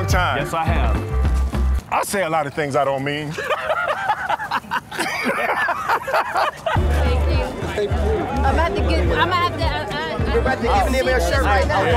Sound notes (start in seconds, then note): 3.3 laughs; 5.1 both laugh